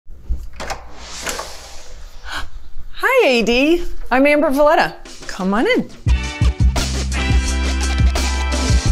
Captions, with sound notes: [door clicks open] - Hi "AD," I'm Amber Valletta. Come on in. [lively music]